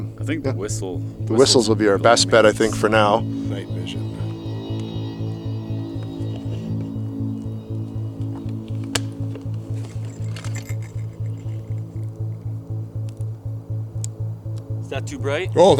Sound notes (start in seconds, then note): 9.1 bell jingling